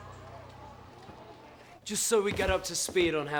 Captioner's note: chattering